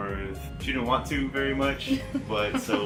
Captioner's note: laughing